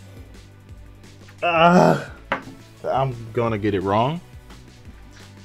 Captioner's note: grunts